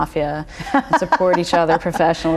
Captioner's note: laughter